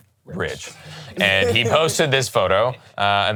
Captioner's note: laughs